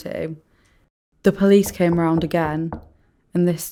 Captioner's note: knock at door